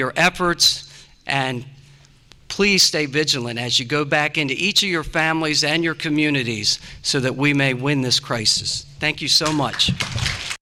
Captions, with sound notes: your efforts. And please stay vigilant as you go back into each of your families and your communities, so that we may win this crisis. Thank you so much. 57 00:03:57,933 (APPLAUSE)